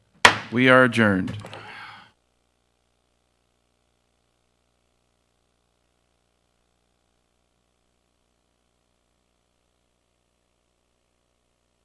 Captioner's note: gavel bangs